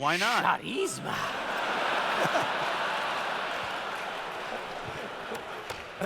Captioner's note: laughter